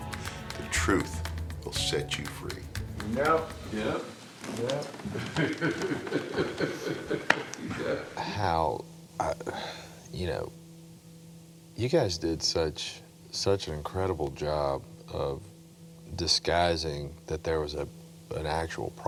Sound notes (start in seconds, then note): 0.0 upbeat music; 5.0 laughing